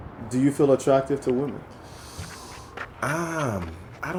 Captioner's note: voiceover